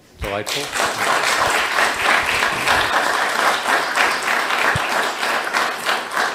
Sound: crowds applauds

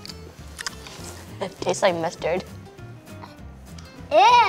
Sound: laughs

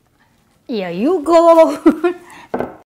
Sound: laughs

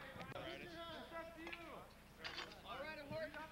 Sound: indistinct chatter; chatter continues

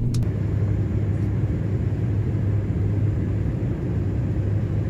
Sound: plane engine roaring

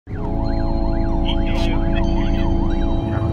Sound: sirens

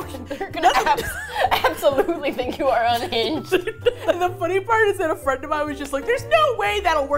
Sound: laughing

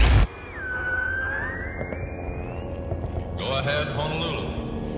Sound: radio buzzing

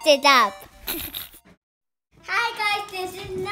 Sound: giggles

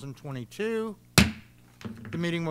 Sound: bangs gavel

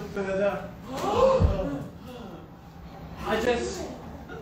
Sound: big gasps

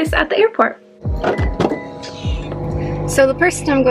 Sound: car door sounds

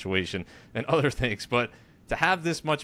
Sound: chuckles

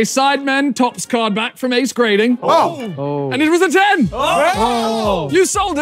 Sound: all groaning

